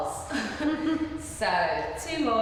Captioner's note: laughing